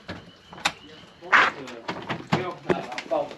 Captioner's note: door opening